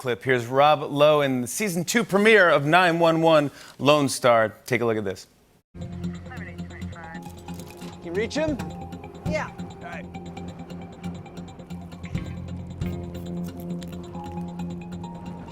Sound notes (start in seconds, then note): 6.1 radio chatter